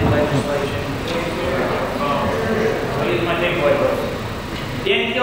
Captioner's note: crowd murmurs